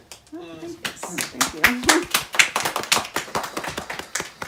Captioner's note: applause